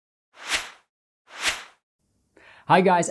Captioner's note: swooshing sound